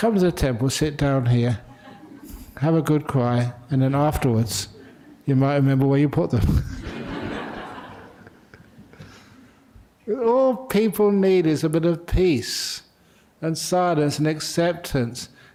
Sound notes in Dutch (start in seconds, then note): 9.2 lachen